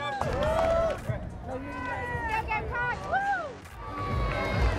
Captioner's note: crowd cheering